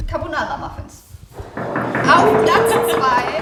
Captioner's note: Klopfender Applaus